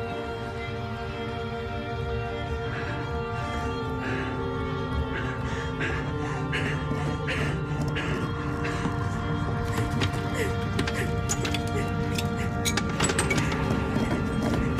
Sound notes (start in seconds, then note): 0.2 somber string music; 3.7 wood scratches; 4.0 woman pants